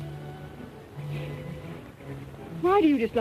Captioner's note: sighs